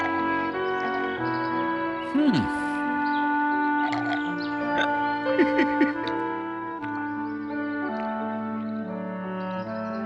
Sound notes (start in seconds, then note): 3.8 belches; 5.2 giggles